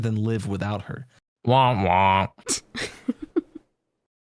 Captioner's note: stifling laughter